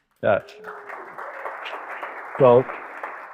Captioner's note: audience applauding